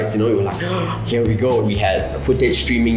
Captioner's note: excitement noises